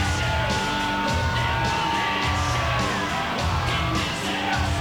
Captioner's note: audience cheering